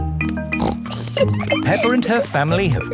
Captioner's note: snorts and giggles